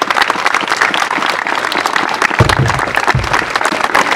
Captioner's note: applause